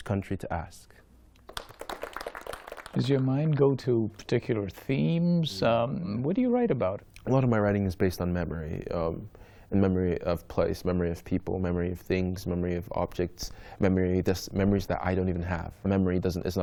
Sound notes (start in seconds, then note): 3.7 applause